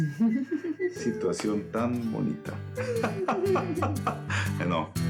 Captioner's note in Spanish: Risas